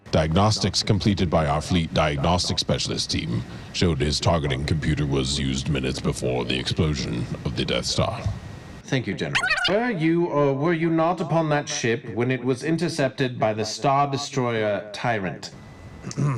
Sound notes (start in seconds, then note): 10.1 disk scratches